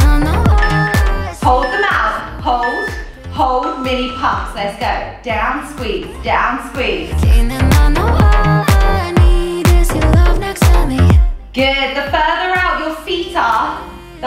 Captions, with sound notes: (timer beeps) Hold them out. Hold, hold. Mini pumps, let's go. Down, squeeze, down, squeeze. Good. The further out your feet are,